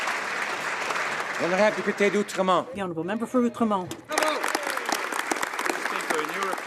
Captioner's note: some Applause